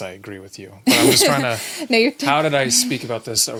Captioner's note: laughing